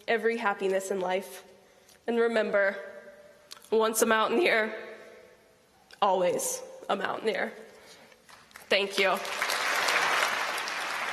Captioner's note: applause